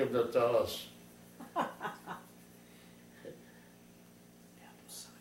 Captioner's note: laughs